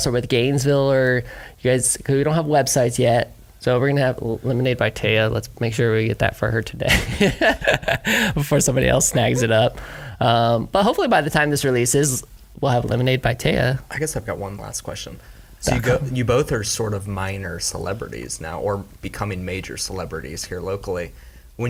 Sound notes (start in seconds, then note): 8.7 laughs